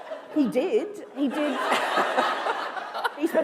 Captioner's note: laughter